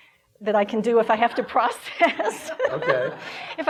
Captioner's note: laughing